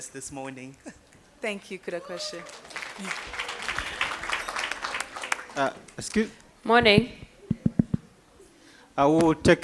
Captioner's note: applause